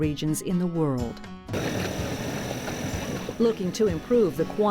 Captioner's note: rumble of motor